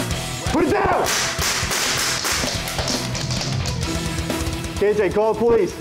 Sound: gun firing

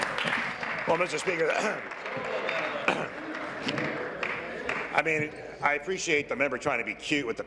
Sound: applause

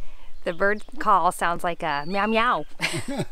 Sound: laughs

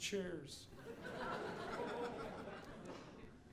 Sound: audience laughing

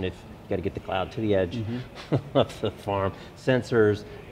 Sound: laughs

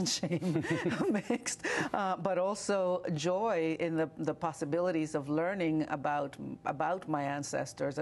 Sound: laughter

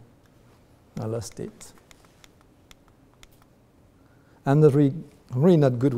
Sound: repeatedly clicks on remote control

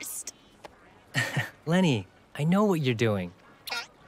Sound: chuckles

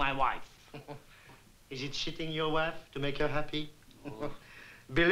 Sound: chuckles

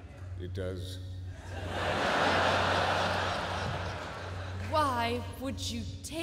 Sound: laughter

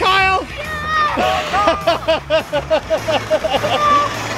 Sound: laughs

